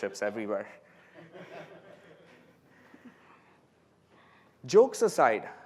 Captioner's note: laughter